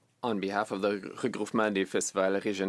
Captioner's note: speaking French